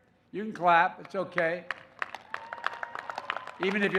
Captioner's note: applause